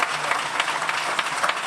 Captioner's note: applause